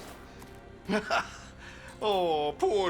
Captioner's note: laughs